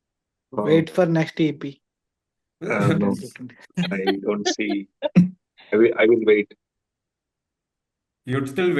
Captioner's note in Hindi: हंसी